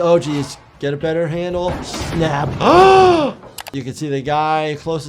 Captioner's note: gasps